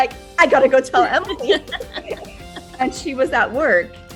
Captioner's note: both laughing